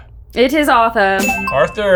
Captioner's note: boards clack; bell dings